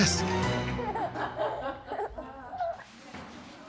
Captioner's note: baby and others laughing